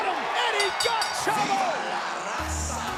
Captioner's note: bell ringing